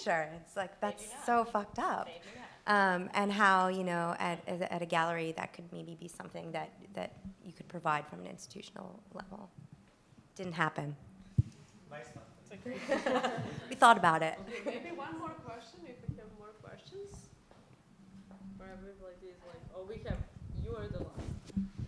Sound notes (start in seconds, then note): 11.6 mumbles; 12.6 laughter